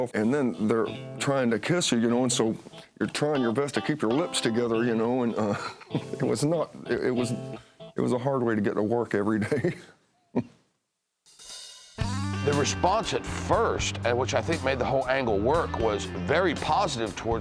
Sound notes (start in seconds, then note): 5.2 laughs; 10.6 laughs